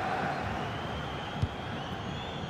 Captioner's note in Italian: Applauso